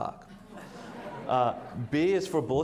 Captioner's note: audience laughs